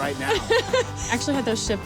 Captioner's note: laughs